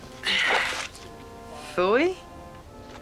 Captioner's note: sighs